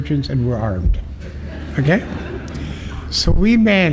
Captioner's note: laughter